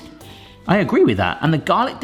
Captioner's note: sniffs